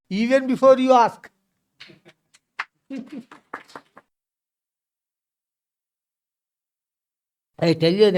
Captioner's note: claps